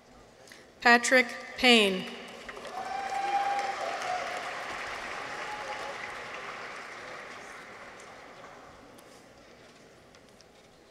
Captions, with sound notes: Patrick Payne. -(people cheer) -(audience applauds)